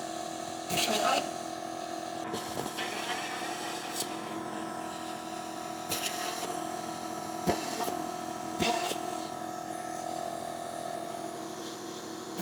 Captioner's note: machine whirring